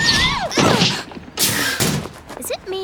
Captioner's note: giggles; screaming; grunting